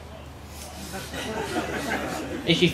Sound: laughter

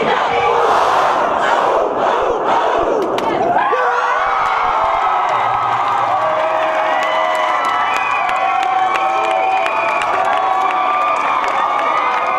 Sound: cheering

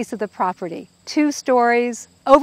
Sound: insects buzzing

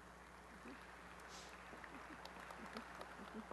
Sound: applause

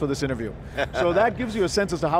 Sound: laughs

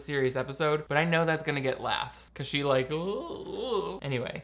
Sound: groans

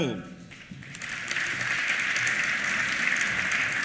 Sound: applause

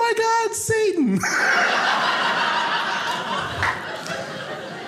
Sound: audience laughing

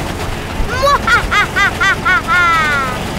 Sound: laughing

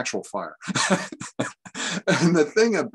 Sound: laughter

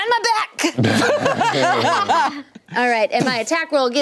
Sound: laughing

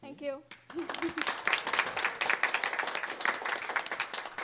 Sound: applause

